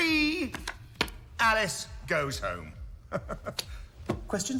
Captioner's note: laughs